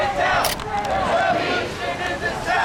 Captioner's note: crowd